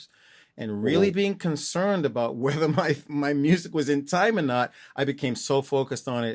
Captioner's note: laughter